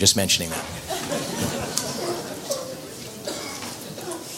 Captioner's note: audience laughter